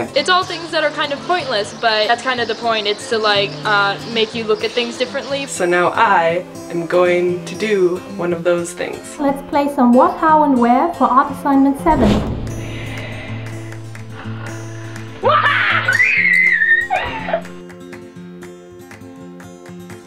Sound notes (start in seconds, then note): 12.6 snoring; 15.2 screaming; 15.9 shrieking